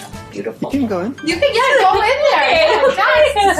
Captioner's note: laughs